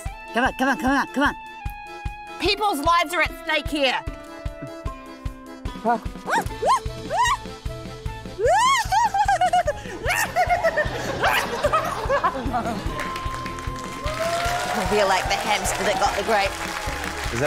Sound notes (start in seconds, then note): 6.8 squeals; 8.3 exclaims, laughs; 13.3 cheering, applause